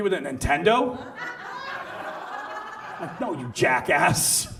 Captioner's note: audience laughs